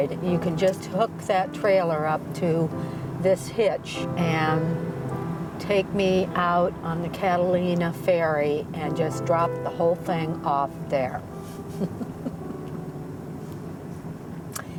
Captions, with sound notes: "you can just hook that trailer up to this hitch "and take me out on the Catalina ferry "and just drop the whole thing off there." (chuckles)